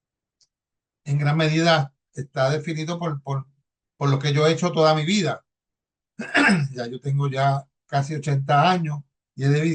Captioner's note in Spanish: carraspeo